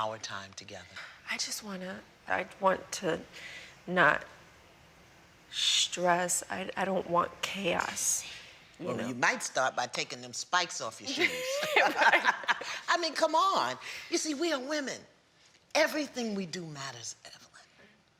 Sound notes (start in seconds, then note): 11.1 both laugh